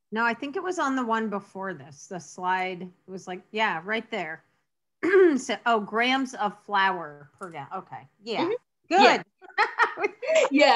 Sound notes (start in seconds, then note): 4.9 clears throat; 9.4 laughs